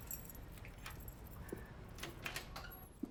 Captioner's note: keys jangling; door latch clicks